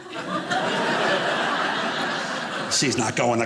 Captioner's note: audience laughing